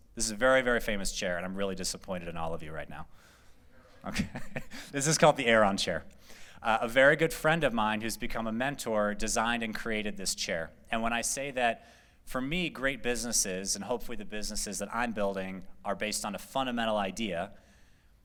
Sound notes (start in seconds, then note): 4.0 laughter